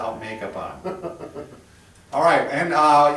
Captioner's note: laughs